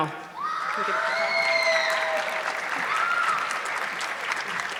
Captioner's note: audience clapping